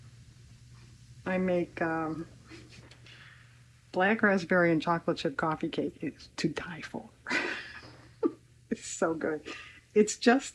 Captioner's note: laughs